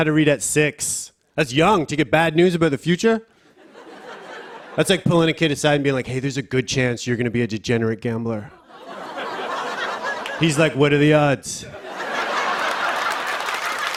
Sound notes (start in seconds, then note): 3.5 laughter; 8.4 laughter; 11.7 laughter and applause